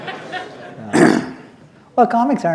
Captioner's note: laughter